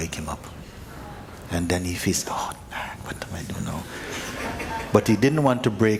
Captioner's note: laughter